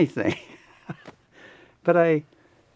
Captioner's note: laughs